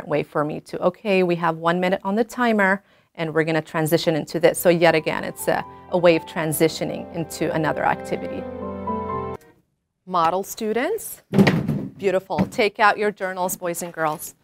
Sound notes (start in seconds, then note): 4.7 classical music starts; 11.3 sound of students slamming elbows on desks